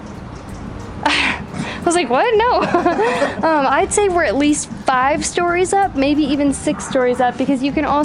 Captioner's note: laughs